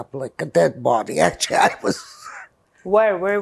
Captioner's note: laughing